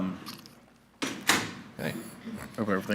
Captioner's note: door thuds